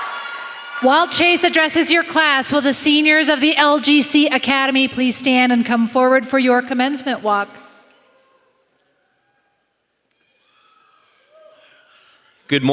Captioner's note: applause